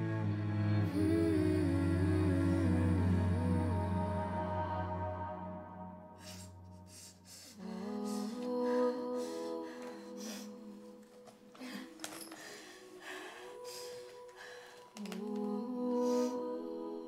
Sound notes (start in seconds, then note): 0.9 somber music continues; 6.8 Keely sniffles; 11.8 Keely pants